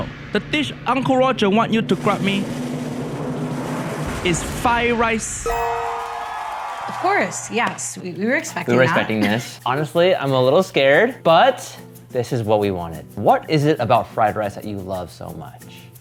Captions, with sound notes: the dish Uncle Roger want you to grant me is fire riced. (gentle dinging) (audience cheering) - Of course. Yes, we were expecting that. - We were expecting this. Honestly, I'm a little scared, but this is what we wanted. What is it about fried rice that you love so much?